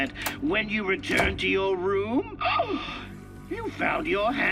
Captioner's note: gasps